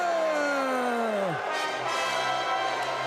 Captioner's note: crowd cheering